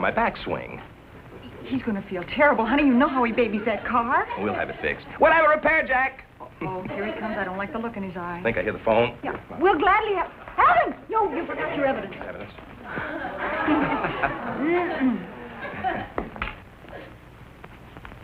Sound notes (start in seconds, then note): 12.9 chuckling nervously